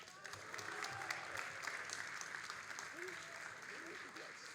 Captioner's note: all applauding